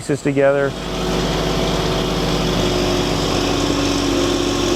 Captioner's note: crane rumbling